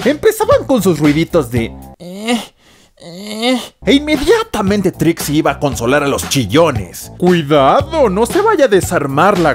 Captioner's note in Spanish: Sonido bebe castroso